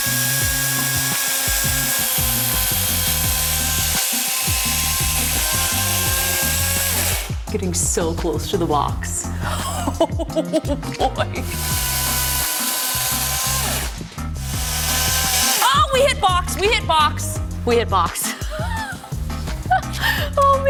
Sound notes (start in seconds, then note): 0.1 funky music continues; 9.4 laughs; 11.3 chainsaw whirring; 19.6 laughs